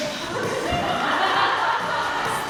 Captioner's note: slap; crowd laughing